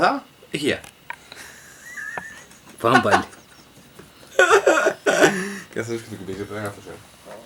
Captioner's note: laughter